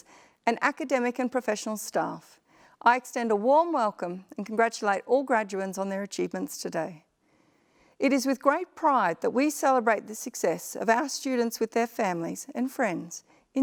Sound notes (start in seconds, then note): none